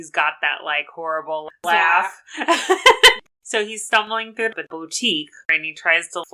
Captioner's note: laughs